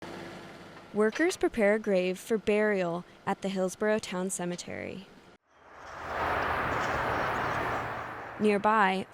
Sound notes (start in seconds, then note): 0.0 excavator whirs and clanks